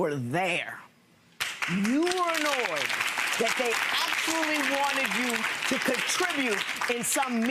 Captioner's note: audience applause